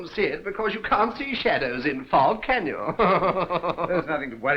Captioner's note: laughs